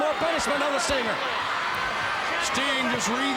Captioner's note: crowd cheering